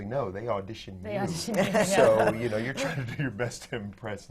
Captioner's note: laughter